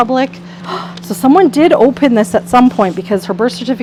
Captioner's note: gasps